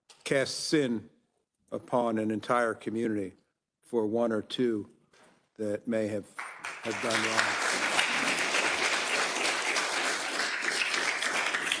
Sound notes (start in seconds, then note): 7.9 attendees applauding